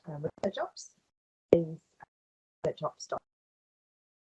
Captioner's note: sound cuts out